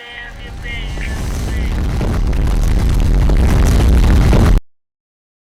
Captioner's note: rages